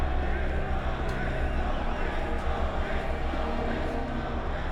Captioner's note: crowd